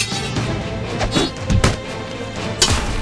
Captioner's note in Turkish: Kılıç sesi